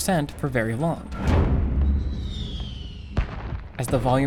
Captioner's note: explosions trail off